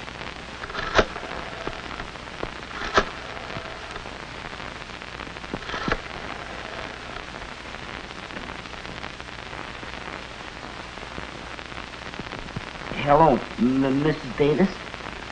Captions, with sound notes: *dialing telephone* *speaking nervously* Hello Mrs. Davis?